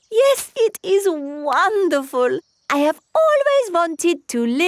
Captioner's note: laughs